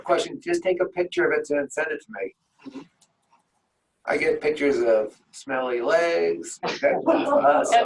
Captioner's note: laughing